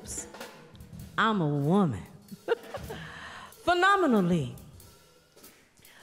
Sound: laughter

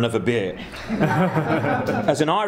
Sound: laughing

